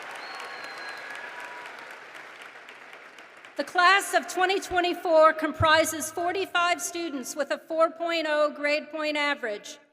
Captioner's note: applause